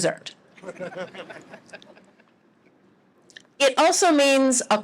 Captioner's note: laughter